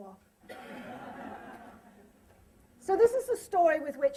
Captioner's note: laughter